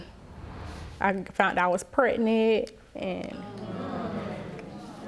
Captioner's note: audience groans; sighing